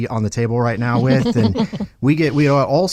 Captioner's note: laughing